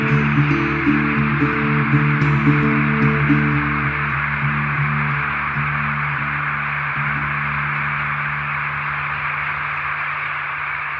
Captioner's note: birds chattering